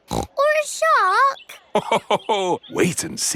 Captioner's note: snorts; laughs